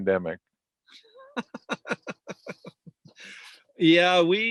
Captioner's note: laughs loudly